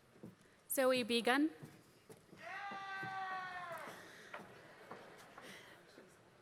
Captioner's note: applause